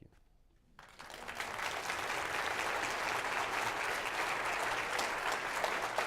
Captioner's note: applause